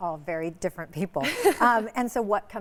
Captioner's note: laughs